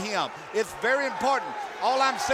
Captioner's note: crowd cheering